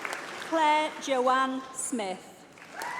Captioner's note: applause